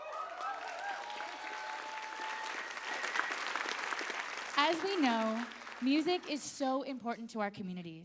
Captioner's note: applause